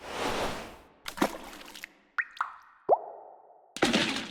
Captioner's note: splashing